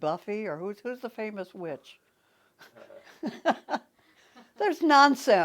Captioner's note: scoffs